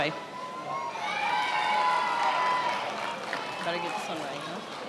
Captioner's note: attendees applauding